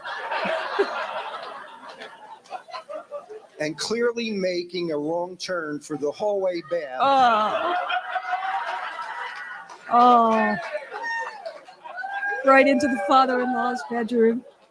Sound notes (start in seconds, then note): 6.9 groans; 8.9 audience laughs and applauds